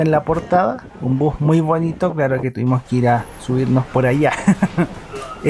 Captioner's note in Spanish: risas